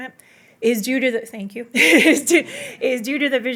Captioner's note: chuckles